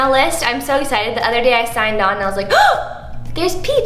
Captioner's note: gasps